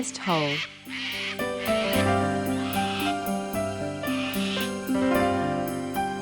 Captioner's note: birds tweeting